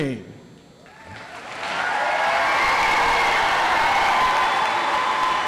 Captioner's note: audience applauds